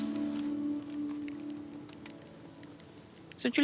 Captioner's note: fire crackles gently